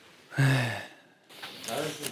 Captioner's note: sighing